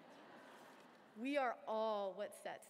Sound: laughter

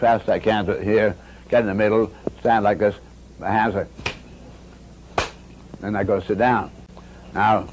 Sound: and Bucky makes two loud claps again

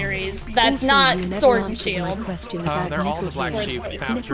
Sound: cough cough; cough cough

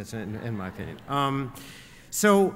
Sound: laughter

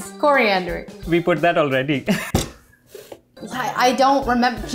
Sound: laughs

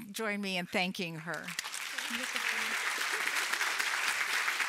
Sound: applause

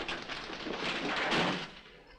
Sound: metal crashing

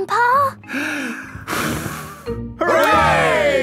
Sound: breathes deeply, blows

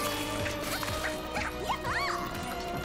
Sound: cheering

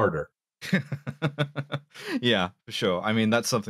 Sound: laughs

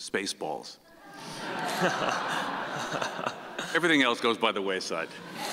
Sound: audience laughing

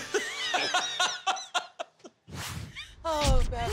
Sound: laughing

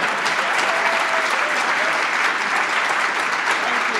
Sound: applause

